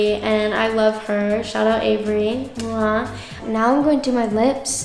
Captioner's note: kiss smacks